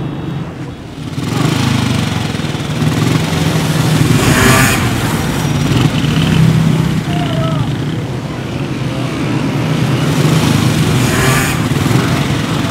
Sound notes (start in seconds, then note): 1.5 motorcycle sound